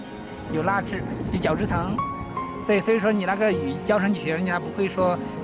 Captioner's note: speaking in foreign language